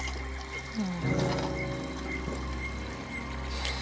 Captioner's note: moans lightly